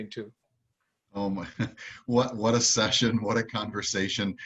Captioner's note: chuckles